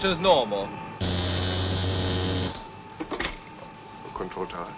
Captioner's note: machine whirring